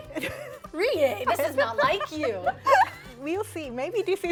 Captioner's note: laughter